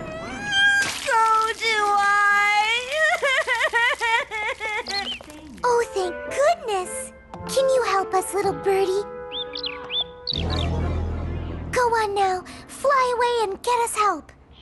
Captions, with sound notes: So do I! [blubbering] [chirp] Oh, thank goodness! Can you help us, little birdy? [chirping] Go on, now. Fly away and get us help.